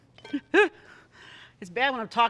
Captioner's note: giggles